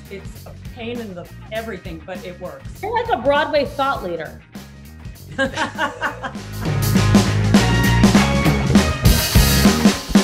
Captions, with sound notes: It's a pain in the everything, but it works. - You're like a Broadway thought leader. (laughing) (upbeat music)